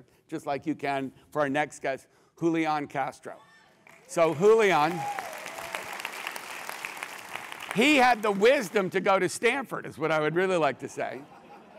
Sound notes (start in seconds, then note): 3.8 applause; 11.2 laugh